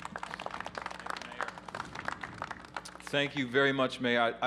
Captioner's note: applause